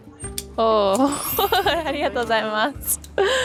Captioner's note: speaking in foreign language